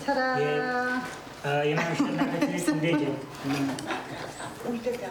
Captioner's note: laughs loudly